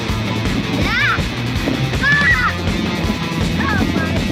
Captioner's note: screaming